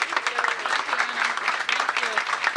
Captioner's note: applause